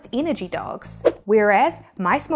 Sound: graphics whooshing

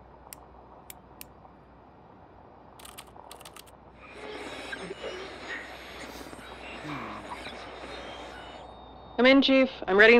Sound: static

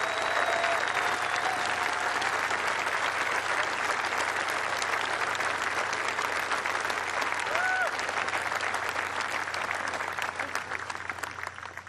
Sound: cheers and applause

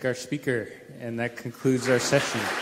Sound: applause

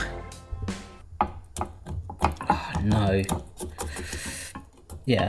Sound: pan knocks

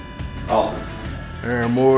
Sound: voiceover

